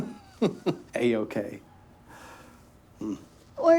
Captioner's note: Elliot chuckling; sighs